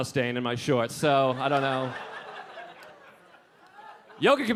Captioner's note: audience laughing